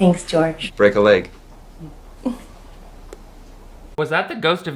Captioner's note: laughs